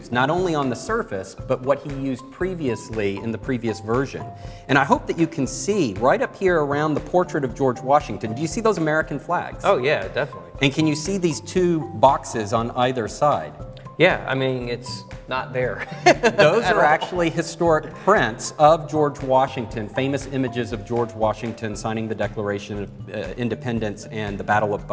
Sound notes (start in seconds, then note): 15.8 laughing